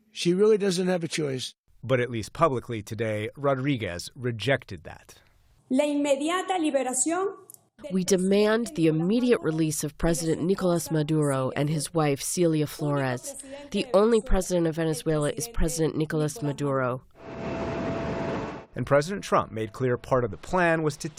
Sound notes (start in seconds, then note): 2.9 voice-over; 8.5 through translator; 18.4 voice-over